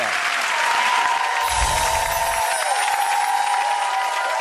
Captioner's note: applause